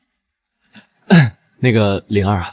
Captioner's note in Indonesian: batuk